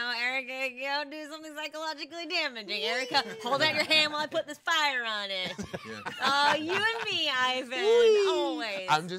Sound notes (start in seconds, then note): 5.4 man laughing